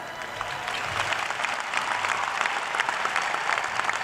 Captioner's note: cheers and applause